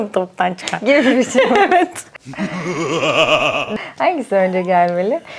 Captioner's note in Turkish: kahkaha